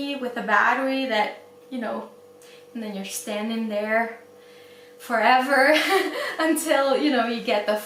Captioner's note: laughs